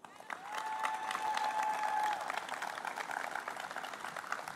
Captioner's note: applause